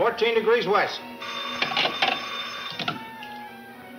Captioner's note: phone ringing